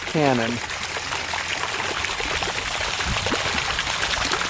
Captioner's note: water splattering